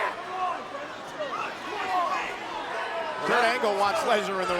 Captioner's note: audience chattering